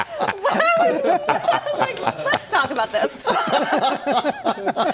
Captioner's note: laughter